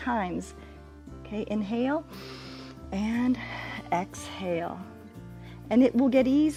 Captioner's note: inhales